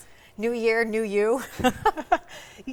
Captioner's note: participants laugh